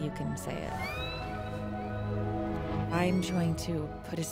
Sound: whale calling

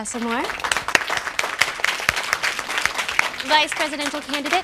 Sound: claps

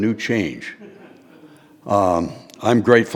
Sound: audience laughing

